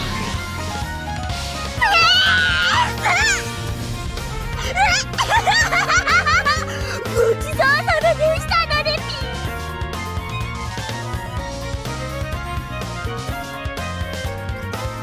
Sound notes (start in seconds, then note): 1.9 giggle